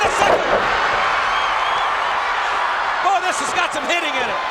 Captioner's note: crowd cheer